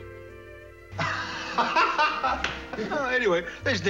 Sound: Buzzy laughs

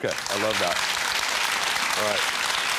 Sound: audience clapping

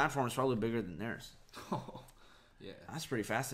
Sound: laughs

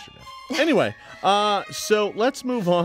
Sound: laughs

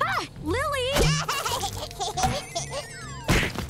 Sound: Lily laughing

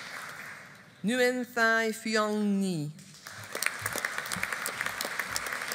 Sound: audience applauding

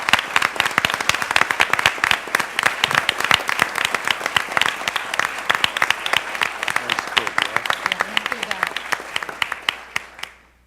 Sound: applause

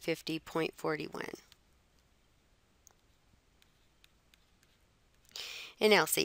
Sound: silence

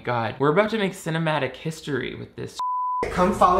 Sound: beep

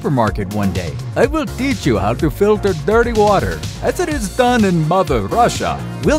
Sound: Russian accent

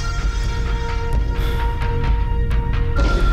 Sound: heavy breathing

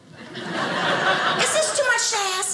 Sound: audience laughing

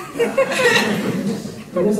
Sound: laughter

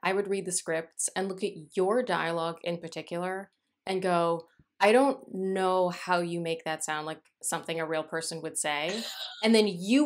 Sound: laughter

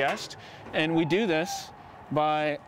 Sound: door creaking

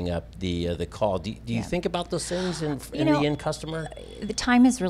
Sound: murmur

